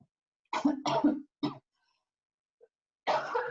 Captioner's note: coughing